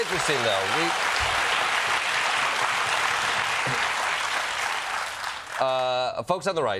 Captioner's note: applause